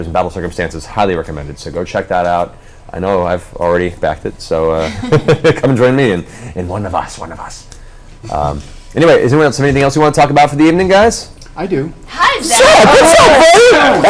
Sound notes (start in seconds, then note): 5.6 evil voice